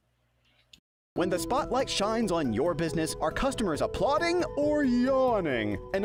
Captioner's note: voiceover